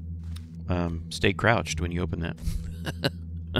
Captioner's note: laughs